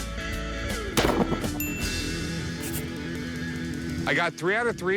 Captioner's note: gun shots; bell ding